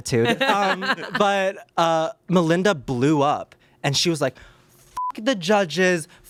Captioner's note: beep